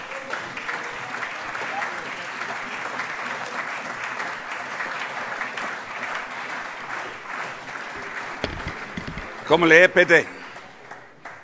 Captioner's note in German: Allgemeiner Beifall - Vizepräsident Frank Lortz überreicht ein Weinpräsent